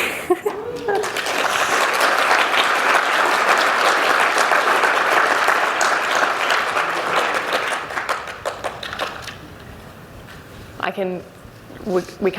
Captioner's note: applause